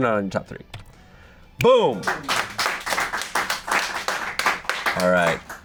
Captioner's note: audience applauding